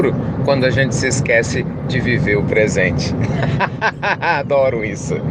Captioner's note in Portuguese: Risos